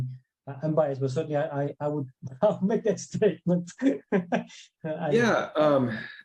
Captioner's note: laughs